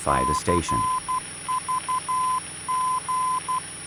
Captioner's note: beeping